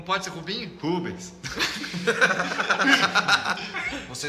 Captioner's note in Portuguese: Risadas